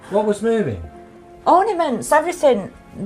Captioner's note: voiceover